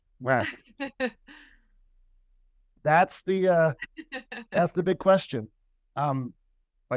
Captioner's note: laughter